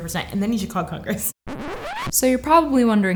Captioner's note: record scratch